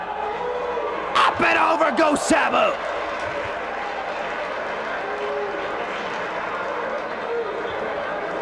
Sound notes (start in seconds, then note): 3.0 spectators applauding